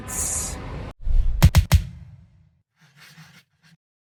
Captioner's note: logo whooshing